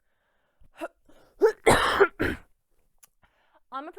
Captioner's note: tensed sigh; coughing fit